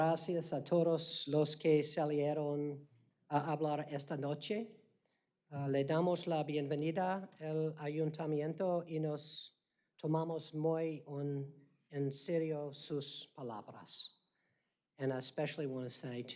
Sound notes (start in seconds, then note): 4.3 speaking spanish